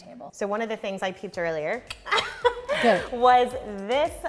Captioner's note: laughs